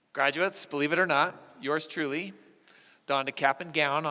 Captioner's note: none